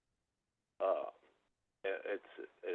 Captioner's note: by phone